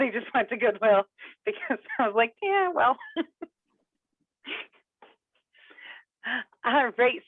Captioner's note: laughs